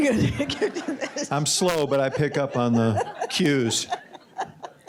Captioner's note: laughter